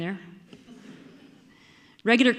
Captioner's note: audience laughing